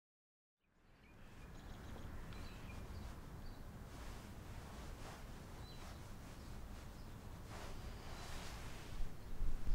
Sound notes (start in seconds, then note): 2.2 birds chirp outside